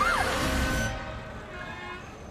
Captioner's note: screams